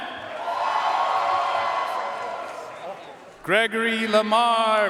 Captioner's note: audience cheering and applauding